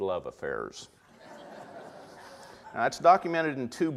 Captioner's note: audience laughter